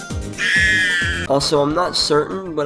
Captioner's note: high-pitched scream